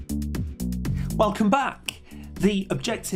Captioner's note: voiceover